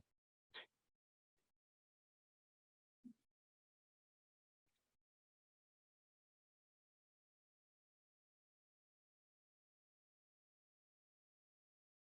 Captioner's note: no sound